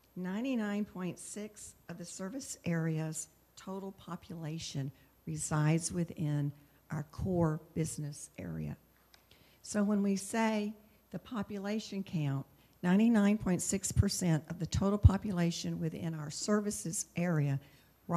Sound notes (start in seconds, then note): none